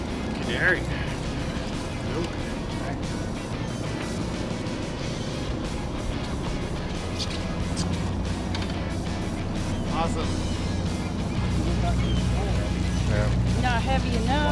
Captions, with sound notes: Canary. - Nice. (birds chirping) Awesome. - Not heavy enough.